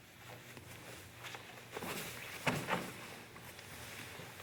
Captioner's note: soft shuffling